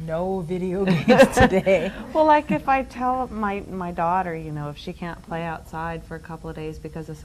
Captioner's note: laughs